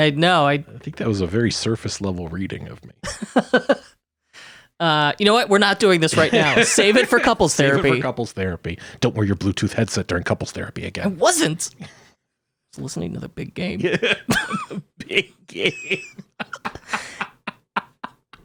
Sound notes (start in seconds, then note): 3.2 laughing; 13.8 laughing; 17.1 laughs